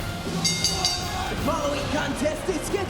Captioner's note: bell dinging; Ilja one exclaiming